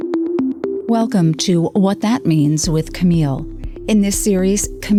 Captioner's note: voiceover